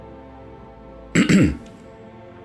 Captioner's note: clears throat again